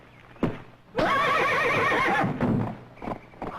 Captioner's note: men grunting, horse neighs